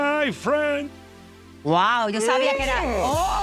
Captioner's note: cheering